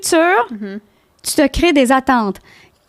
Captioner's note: in french